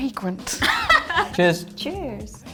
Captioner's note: laughs